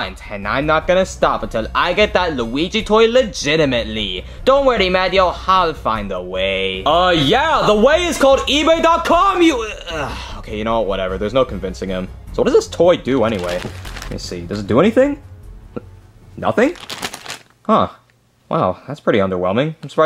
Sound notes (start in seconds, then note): 9.7 groans